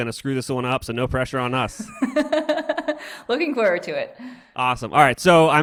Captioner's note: laughs